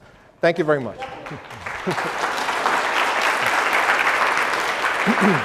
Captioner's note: applause